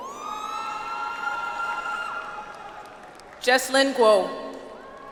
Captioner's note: audience applauds